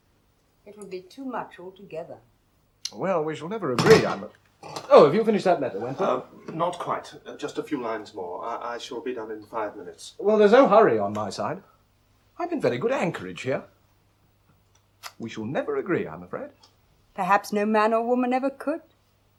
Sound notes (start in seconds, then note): 3.8 inkwell clatters